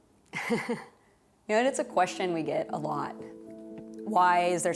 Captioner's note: chuckles